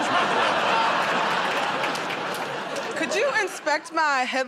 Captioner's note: laughter